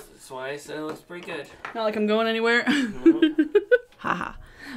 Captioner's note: laughing